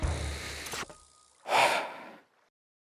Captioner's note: slowly inhales; exhales